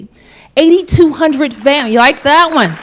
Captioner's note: applause